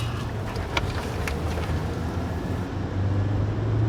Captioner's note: car engine whirring